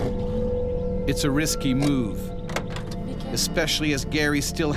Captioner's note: voiceover